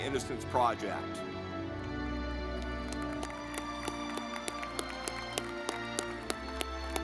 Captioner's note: dramatic music; audience clapping